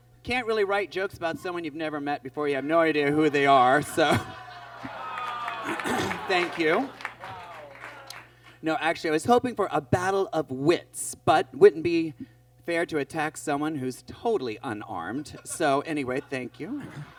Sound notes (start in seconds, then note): 3.2 audience groans